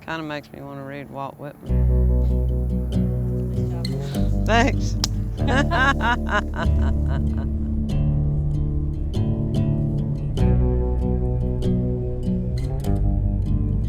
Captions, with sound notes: Kind of makes me want to read Walt Whitman. (soft music) Thanks! (laughter)